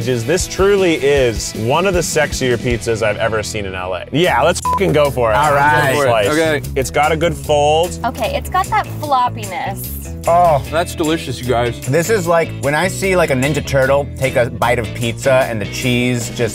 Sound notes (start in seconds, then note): 4.5 beep